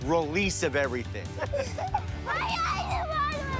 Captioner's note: group laughing